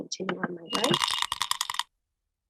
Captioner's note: die rattling